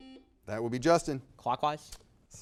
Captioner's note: buzzer beeping